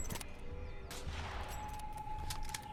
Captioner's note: gun bangs